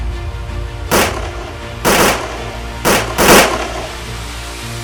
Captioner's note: gun Shot